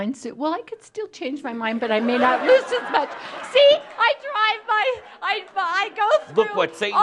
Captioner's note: laughter